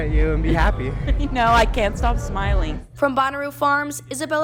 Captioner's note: laugh